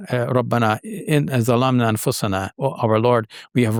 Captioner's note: speaking in foreign language